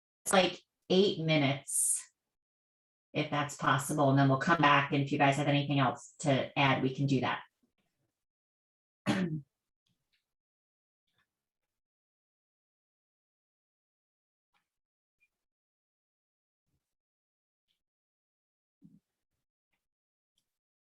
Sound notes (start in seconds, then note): 11.2 silence